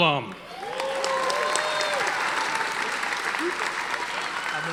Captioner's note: audience applauding